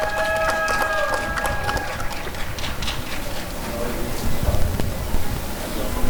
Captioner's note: applause and cheering